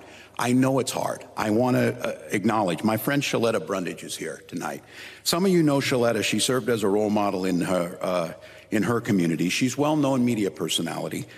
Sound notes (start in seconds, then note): none